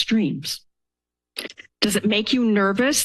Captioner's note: pause